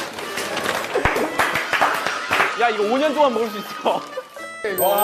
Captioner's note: Tepuk tangan